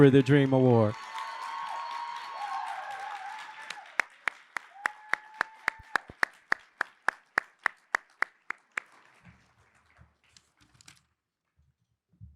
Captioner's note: applause